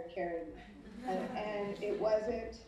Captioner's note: audience laughing